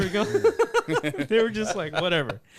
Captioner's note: laughs